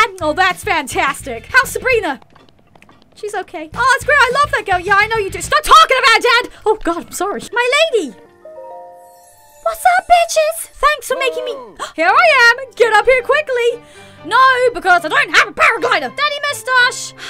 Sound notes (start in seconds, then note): 11.6 gasp; 16.8 sigh